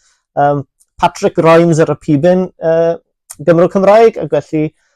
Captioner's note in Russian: говорит по трубке